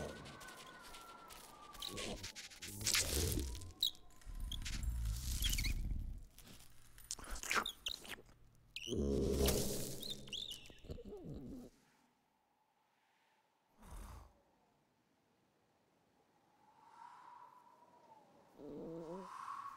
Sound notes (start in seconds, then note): 7.0 slurping; 9.6 chirping